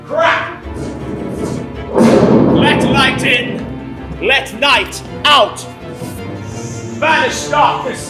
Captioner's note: crash of thunder